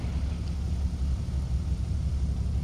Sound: bus sliding

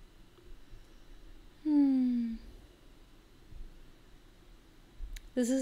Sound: sigh

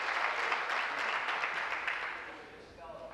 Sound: applause

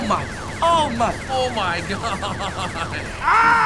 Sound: laughing

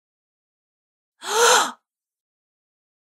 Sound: sound of gasp

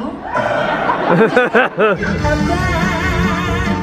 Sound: audience laughs

